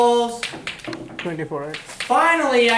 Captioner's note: voiceover